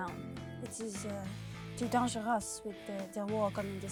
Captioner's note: speaking foreign language